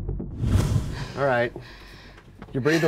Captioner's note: heavy breaths